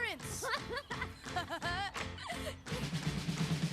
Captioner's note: both laughing